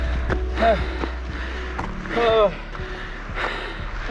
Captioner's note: groaning